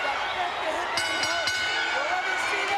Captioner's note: bell ringing